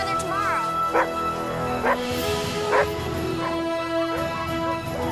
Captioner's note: dogs barking